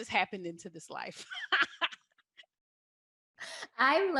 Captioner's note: chuckles